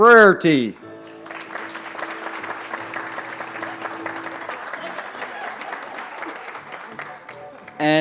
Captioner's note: applause